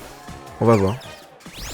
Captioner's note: Nymble's cry